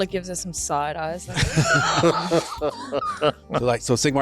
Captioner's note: laughter